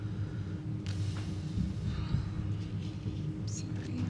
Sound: sighs

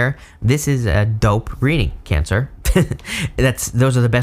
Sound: laughs

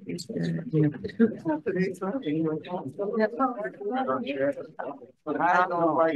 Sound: chattering indistinctly

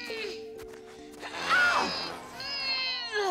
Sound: grunting; gasping; grunting

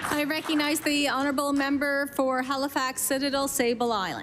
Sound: applause

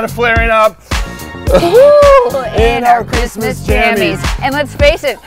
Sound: both groaning

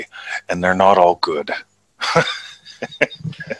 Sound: laughs

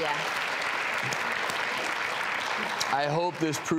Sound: audience clapping

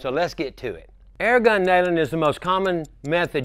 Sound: clock ticking

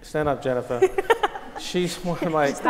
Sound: laugh

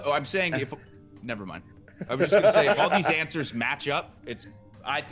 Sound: laugh

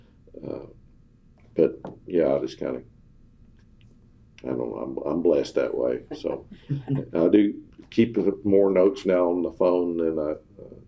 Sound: laughter

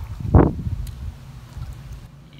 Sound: tongue clicks

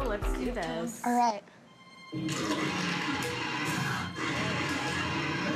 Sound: dinosaurs roaring

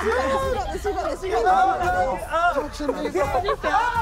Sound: screaming

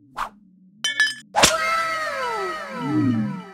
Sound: glass clinks

